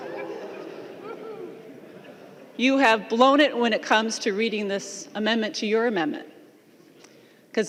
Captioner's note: lauging